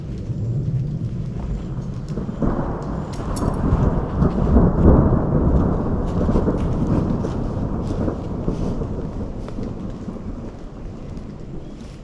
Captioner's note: thunder